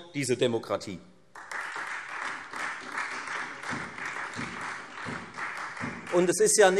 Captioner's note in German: Beifall Freie Demokraten und vereinzelt SPD